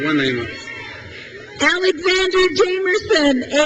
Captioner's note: crowd cheers